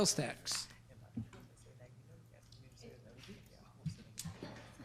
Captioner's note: group chatter